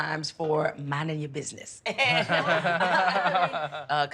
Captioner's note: laughing